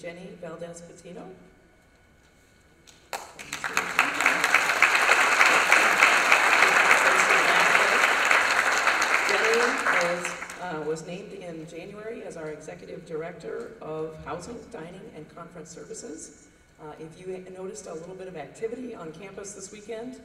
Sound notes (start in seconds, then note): 1.1 applause